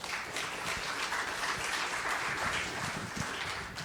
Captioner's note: audience applauding